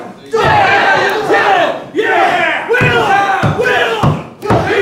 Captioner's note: audience cheering